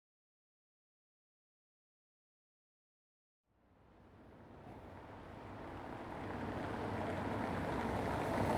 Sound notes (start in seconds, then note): 5.7 car passing